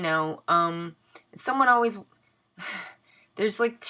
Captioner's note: sigh